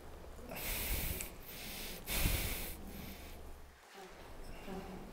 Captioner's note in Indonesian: Bernapas